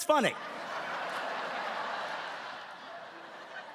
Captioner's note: laughing